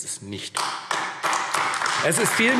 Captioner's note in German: Beifall AfD